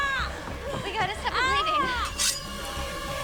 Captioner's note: groaning